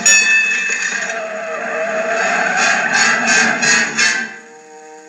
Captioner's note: Screech; ding